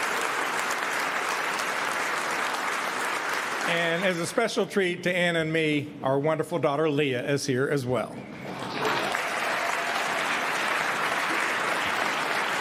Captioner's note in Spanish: aplausos